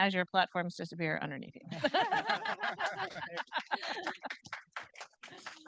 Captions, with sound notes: as your platforms disappear underneath you. (group laughing) (audience applauding)